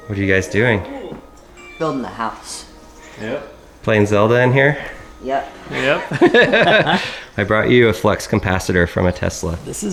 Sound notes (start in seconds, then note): 7.3 laughs